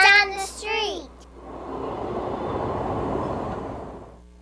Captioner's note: train whirs